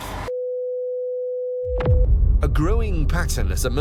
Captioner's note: steady tone beeps